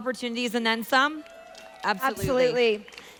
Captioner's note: audience applauding